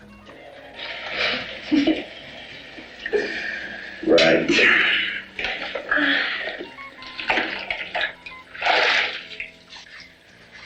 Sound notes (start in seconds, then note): 1.2 giggles; 2.7 exhales; 5.9 woman sighs